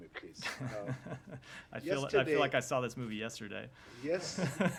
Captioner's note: laughter